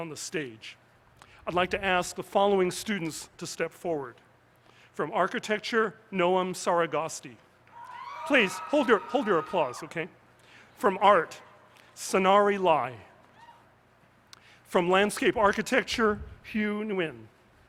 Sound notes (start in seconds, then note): 7.7 cheers